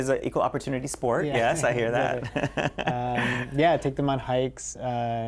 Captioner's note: laughter